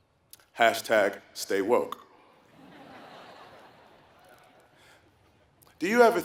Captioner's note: laugh